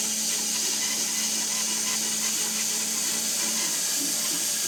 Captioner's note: saw buzzing continues